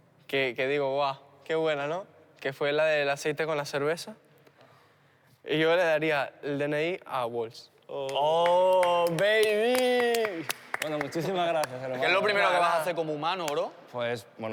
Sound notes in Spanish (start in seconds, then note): 9.7 Aplausos